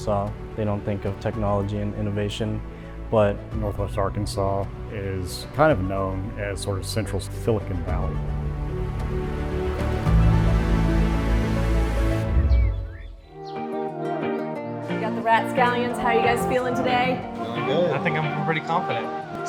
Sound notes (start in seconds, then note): 8.0 intense music; 12.3 birds chirping; 12.4 relaxing music